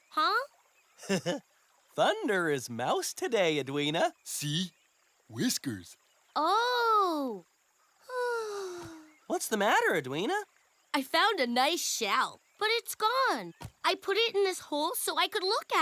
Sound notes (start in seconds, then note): 1.0 chuckles; 6.1 sighs